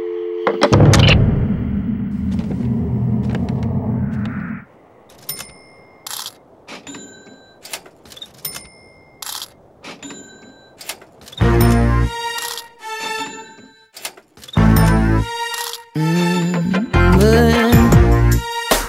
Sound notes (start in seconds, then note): 0.4 receiver clattering; 5.0 cash register dinging; 5.1 coins clinking